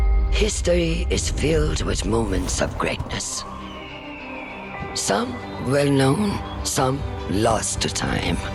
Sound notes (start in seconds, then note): 4.0 eagle cries